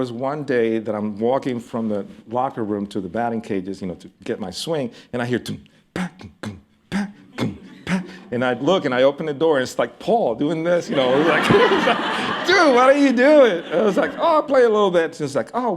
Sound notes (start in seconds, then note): 5.9 imitates drums; 10.8 laughter